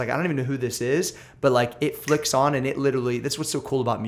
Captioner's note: snaps fingers